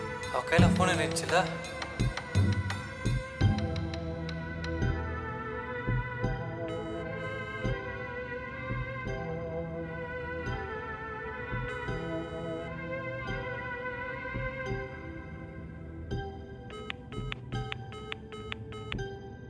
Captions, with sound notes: She had the mobile with her right? [engaged tone]